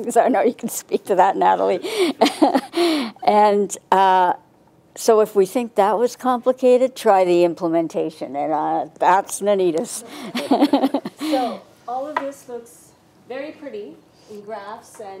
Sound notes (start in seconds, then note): 1.8 laughs; 10.1 laughs